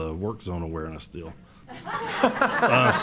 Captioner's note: laughter